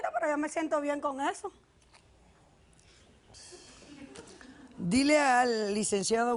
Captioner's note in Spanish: Risas